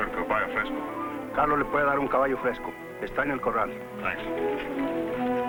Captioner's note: speaking in foreign language